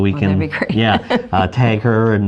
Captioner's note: laughs